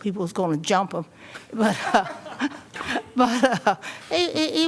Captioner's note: laughter